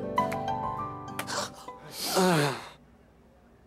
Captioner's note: sighing